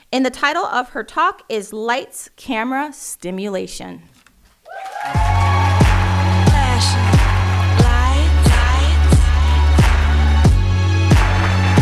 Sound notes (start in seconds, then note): 4.6 audience applauding